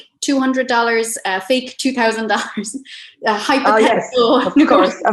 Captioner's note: laughs